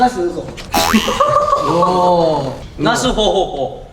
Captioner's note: unintentionally laughed